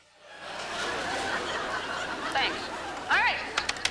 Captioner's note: audience laughs